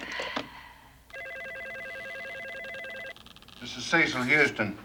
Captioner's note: phone ringing